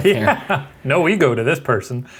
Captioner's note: laughing